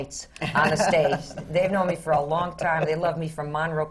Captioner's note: laughs